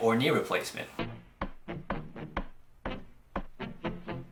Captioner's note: footsteps